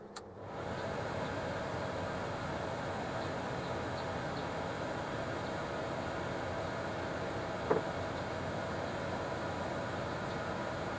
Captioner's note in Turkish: Aspiratör sesi ve dışarıdan gelen kuş sesleri